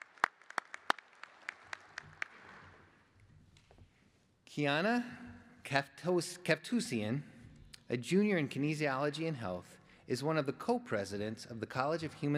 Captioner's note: applause